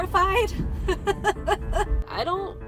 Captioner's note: laughing in fear